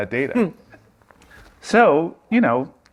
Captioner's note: laughs